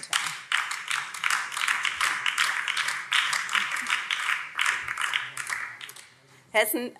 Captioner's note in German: Beifall BÜNDNIS 90/DIE GRÜNEN